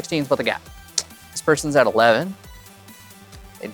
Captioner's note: clicks tongue